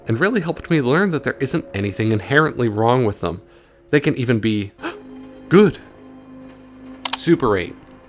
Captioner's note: gasp